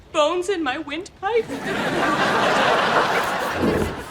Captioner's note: laughs